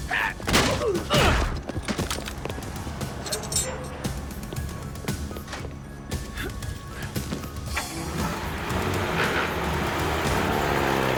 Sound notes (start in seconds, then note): 0.2 guards gasp; 1.5 blows thudding; 1.5 guards grunt; 7.1 engine revving